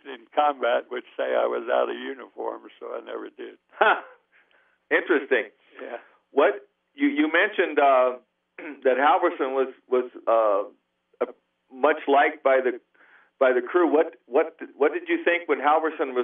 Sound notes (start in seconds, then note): 3.7 laughs